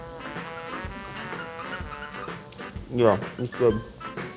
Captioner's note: pickle squeaking